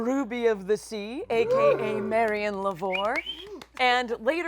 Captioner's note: quiet cheering